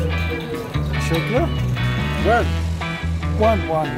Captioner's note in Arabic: بالتركية